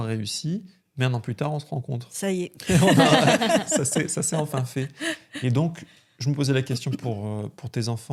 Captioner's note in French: rires